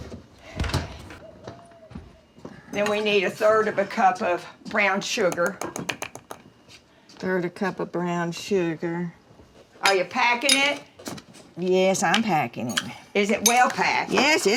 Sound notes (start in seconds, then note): 1.1 refrigerator door closes; 5.1 spoon tapping